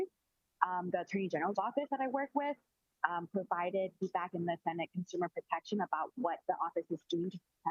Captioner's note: audio distorting